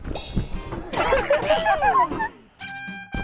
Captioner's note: letting out a villain laugh